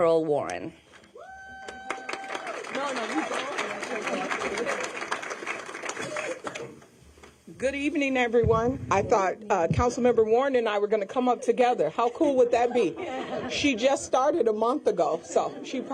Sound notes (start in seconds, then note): 4.2 applause